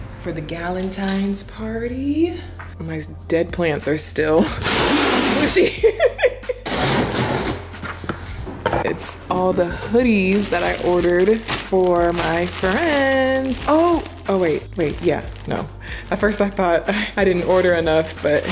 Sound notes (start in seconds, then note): 5.4 laughing